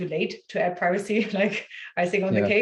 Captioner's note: chuckles